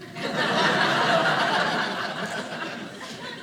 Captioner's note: audience laughing